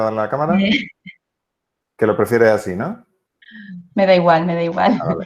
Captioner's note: risas